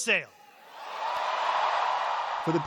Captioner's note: cheering